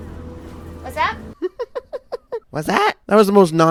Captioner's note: giggles